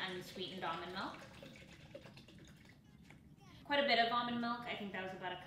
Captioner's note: milk gushing